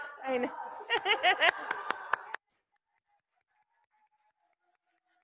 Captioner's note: audience clapping